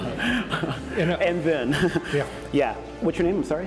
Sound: laughs

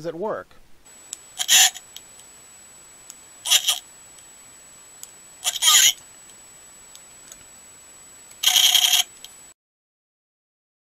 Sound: talking sound effects

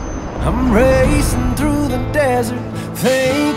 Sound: bus brakes squeaking; bus brakes squeaking

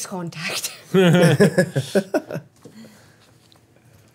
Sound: group chuckles

